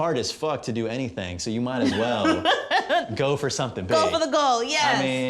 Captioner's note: laughs